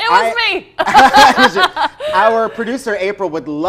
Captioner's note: laughs